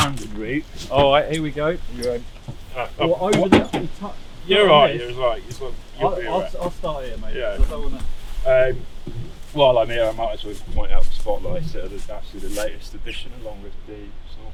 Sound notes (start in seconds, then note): 3.3 indistinct chatter